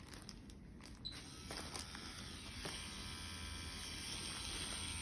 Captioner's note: machine whirring